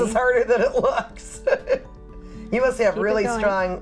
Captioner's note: laughs